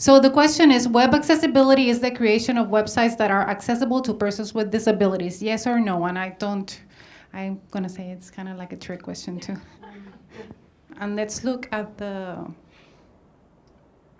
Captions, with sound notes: So the question is Web accessibility is the creation of websites that are accessible to person with disabilities, yes or no? And I don't, I'm gonna say it's kind of like a trick question, too. (audience laughs) And let's look at the answers.